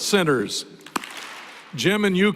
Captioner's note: applause